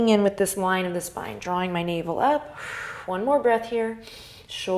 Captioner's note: exhale